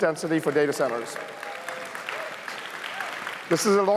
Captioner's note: cheers, applause